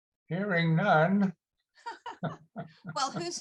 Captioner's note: both chuckles